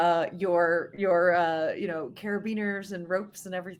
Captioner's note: none